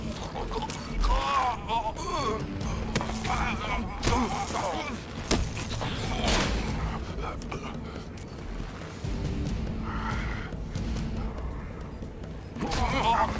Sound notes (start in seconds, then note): 0.0 dramatic music; 2.3 gasping; 3.8 grunting